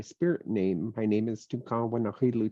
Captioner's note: speaking in Native language